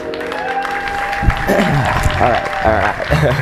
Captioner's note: applause